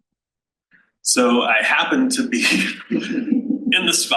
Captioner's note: panel laughs